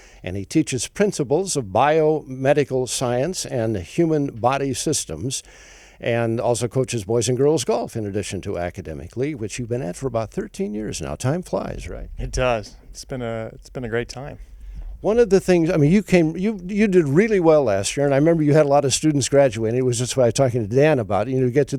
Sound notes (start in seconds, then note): none